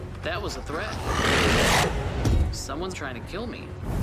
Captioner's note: snarling